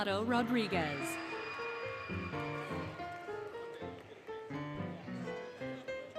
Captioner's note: applause, Cheering, Music